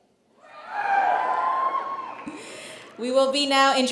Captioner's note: cheers